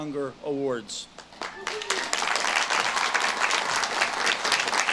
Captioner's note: audience claps